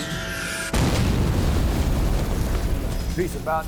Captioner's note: bomb exploding